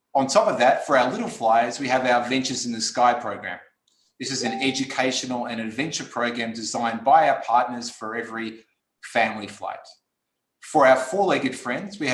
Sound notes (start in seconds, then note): 4.3 beep